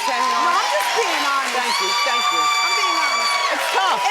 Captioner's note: audience cheers